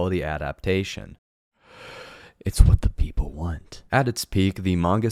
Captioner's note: deep breath